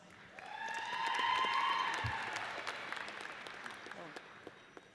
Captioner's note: audience cheers